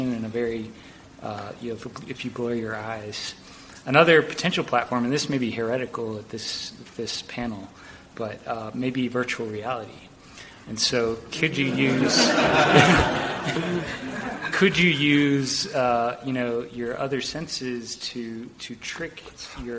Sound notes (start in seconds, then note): 11.4 audience laughs